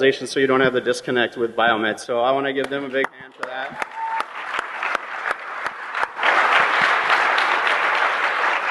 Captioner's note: applause